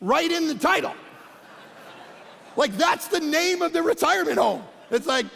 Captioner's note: congregation laughing